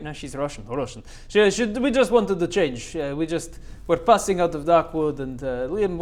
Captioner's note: Russian